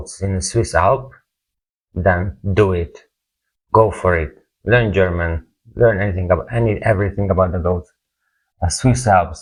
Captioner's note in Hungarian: German